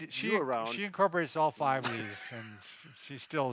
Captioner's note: laughs